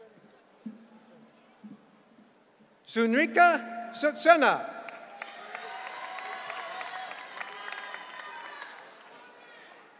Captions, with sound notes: Sunika Sutsena. (audience cheering)